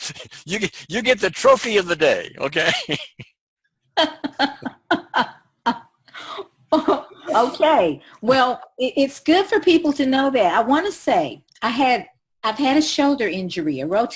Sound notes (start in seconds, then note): 2.3 laughing